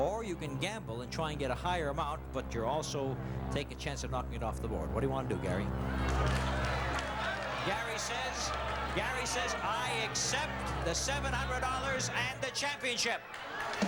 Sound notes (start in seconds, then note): 6.7 audience shouting